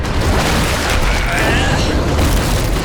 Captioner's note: grunting